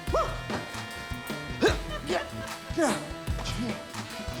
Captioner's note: grunts, pants